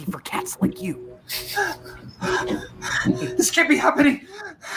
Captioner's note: hyperventilating